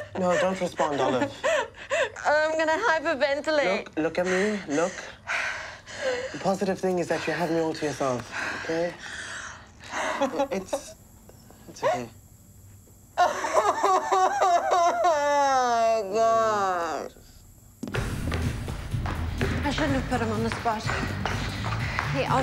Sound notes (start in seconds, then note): 4.3 taking deep breaths; 13.0 wailing